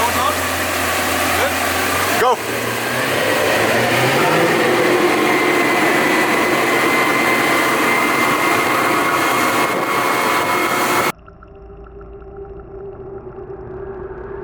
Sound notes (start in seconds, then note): 4.8 motor roaring; 11.8 eerie music